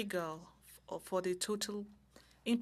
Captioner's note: speaking French